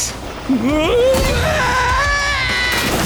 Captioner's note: yelling in british